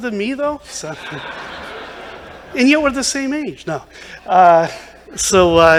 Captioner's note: laughter